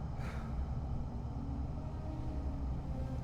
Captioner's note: sighs